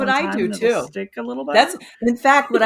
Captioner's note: laughing